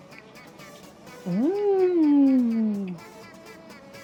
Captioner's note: sound of ascending to heaven